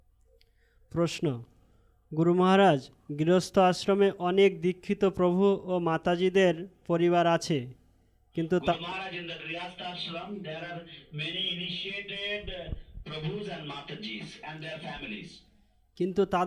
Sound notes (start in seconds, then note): 1.6 Bengali